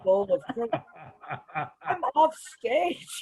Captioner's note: laughs